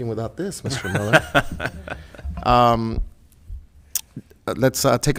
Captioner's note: laughs